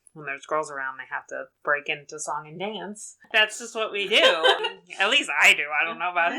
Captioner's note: laughs